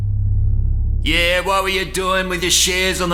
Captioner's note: ominous music; voice with a broad-Australian accent